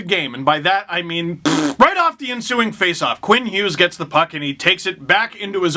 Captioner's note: fart noise